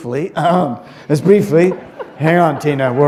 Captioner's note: laughter